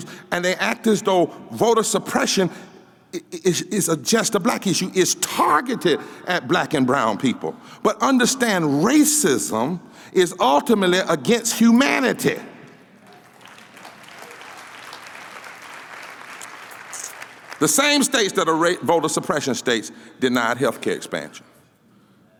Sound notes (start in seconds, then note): 13.0 applause